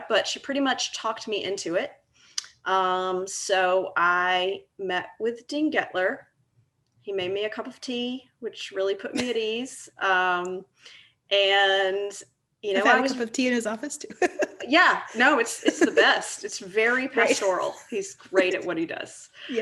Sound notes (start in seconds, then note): 9.8 laughing; 14.2 laughing; 14.2 laughs